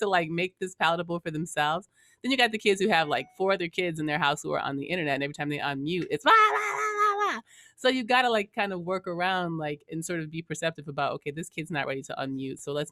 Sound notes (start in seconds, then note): 7.3 bubbling